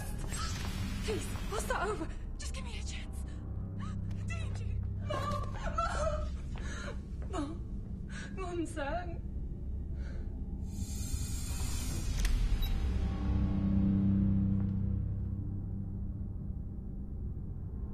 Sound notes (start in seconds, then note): 4.9 she cries; 6.4 SPEAKS lN CANTONESE